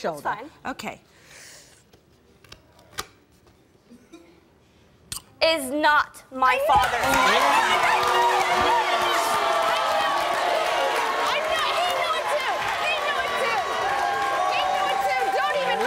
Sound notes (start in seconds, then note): 10.4 crowd cheering